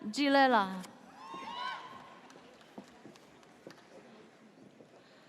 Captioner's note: audience cheers